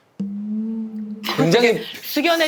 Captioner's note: haha